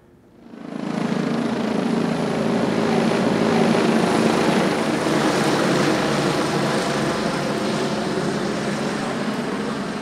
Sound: helicopter flying overhead

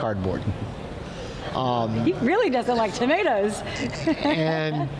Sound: laughs

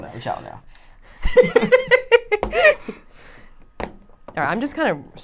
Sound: laughing

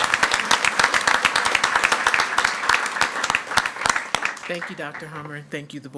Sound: everyone applauding

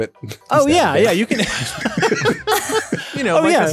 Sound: laughing

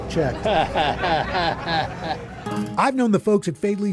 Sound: chuckles

